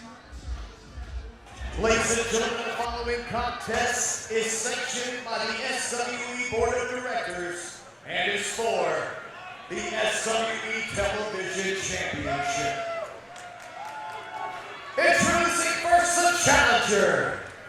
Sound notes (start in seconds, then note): 12.4 crowd cheering